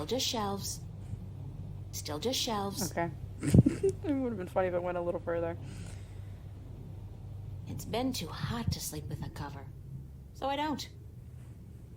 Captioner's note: laugh